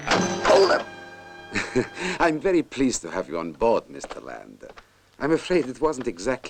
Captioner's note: chuckles